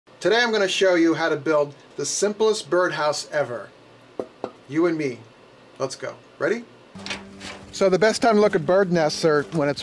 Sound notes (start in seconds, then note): 4.1 taps board